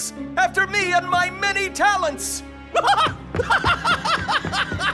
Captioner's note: laughs maniacally